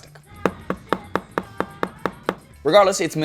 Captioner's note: taps loudly